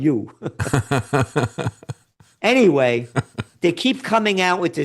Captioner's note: laughing